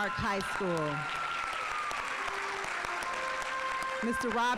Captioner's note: audience applauding; instrumental music